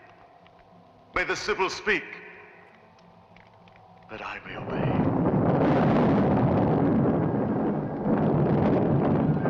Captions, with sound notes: may the Sybil speak that I may obey. (thunder crashing)